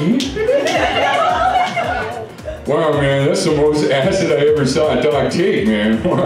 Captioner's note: laughter